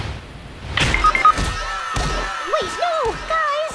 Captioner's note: screaming